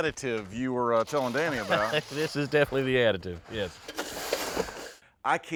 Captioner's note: laughs; scraping